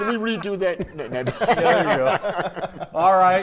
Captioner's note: commentators laughing